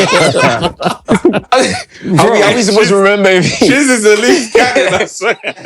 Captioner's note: laughter